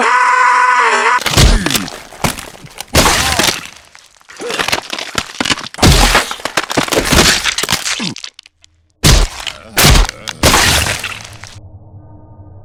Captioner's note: Wario screams; Sounds of the creature ripping Wario apart